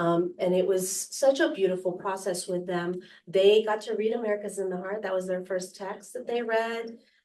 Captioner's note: none